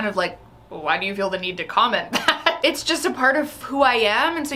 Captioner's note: laughs